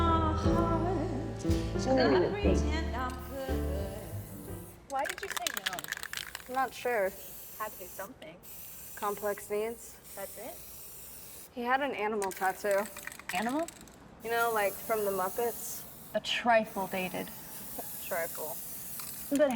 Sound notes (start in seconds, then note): 0.1 music fades; 7.2 spray paint hisses